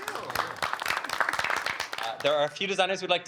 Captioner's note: group applauding